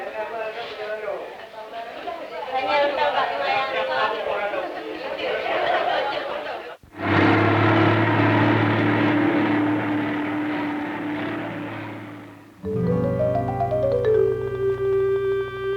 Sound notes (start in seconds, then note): 0.0 indiscriminate chatter; 6.9 large bus speeds down road